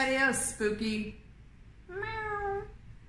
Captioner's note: meowing